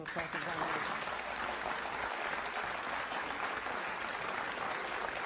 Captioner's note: applause